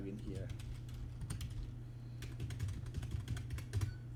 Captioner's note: typing